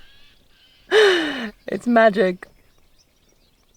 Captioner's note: laughs